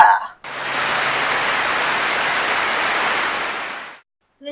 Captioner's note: clapping